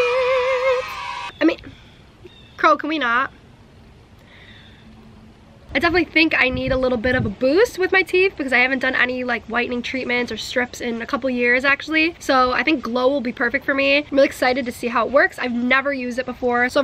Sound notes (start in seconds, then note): 0.0 children cheering; 4.3 crow cawing